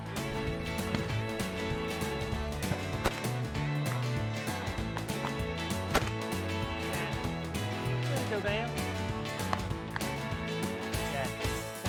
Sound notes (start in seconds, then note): 0.6 country music; 6.8 multiple gunshots